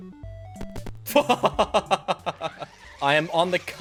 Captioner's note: laughs